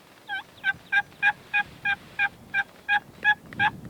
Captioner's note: turkey call